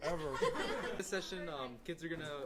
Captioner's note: laughter